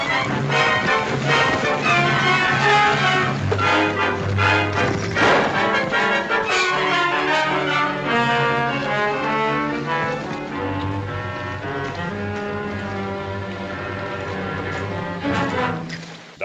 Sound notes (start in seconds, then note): 5.1 gunshot; 11.9 ominous music